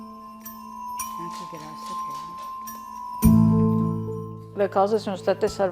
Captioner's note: speaking in foreign language